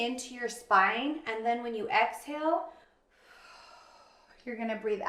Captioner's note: exhales sharply